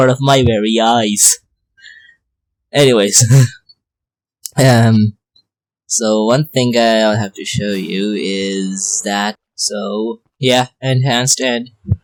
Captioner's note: laughs